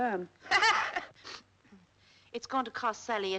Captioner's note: woman laughs